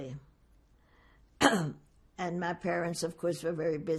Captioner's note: clears throat